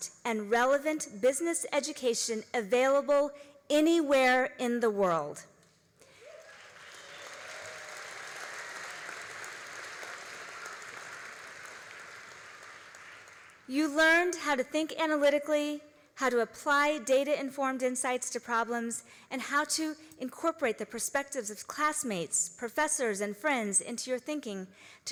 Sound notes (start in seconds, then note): 6.0 all applauding